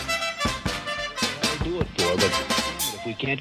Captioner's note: cuckoo sound